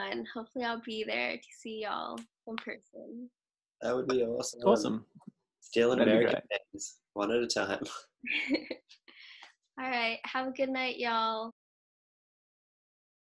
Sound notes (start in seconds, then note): 8.2 chuckles; 12.3 muted, fade out